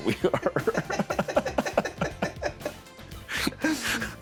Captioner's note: laughter